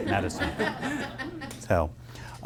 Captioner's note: attendees laughing